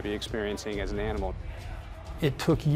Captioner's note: background chattering